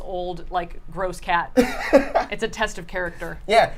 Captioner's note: laughs